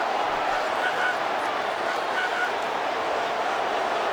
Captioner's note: crowd clamoring